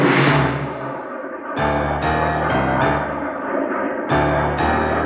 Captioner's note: airplanes rumbling